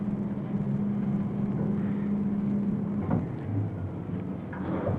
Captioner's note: whurring sound of elevator